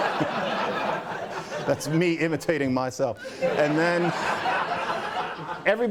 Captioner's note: laughter